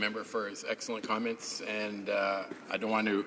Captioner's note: speaking in french